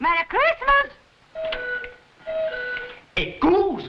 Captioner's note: cuckoo clock chiming